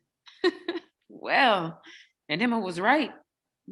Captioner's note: laughs